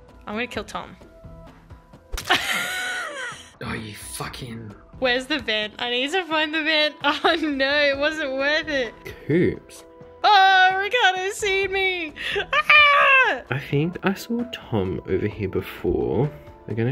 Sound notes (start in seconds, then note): 1.8 squelching; 2.2 laughing